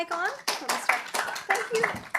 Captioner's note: applause